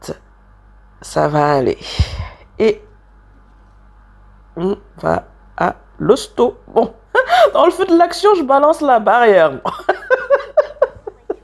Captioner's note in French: Rires